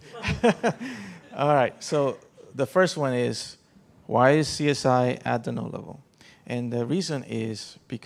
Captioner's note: laughter